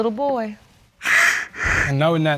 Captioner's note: crying